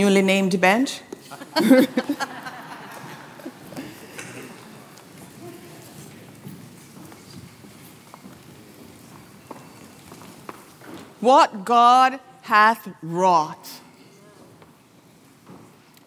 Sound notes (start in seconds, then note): 1.2 laughter